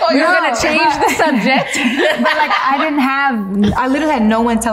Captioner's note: laughs